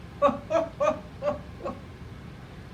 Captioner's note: laughs